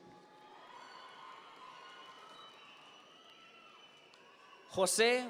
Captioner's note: audience members cheer